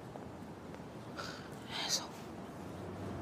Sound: groans

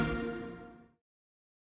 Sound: xbox sound

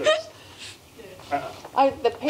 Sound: laugh

